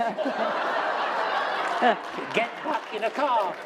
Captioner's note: laughter